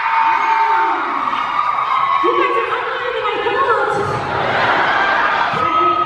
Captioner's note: cheering drowns out speaker; audience cheering